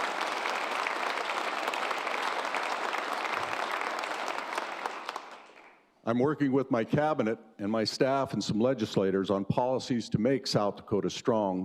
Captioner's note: cheers and applause